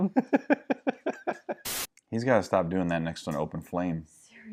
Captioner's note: laughing